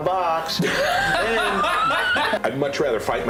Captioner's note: laughter